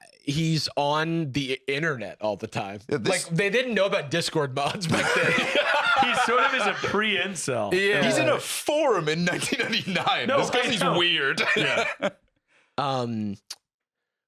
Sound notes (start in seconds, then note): 9.2 laughs